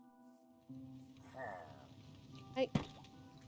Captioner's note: Pillager murmurs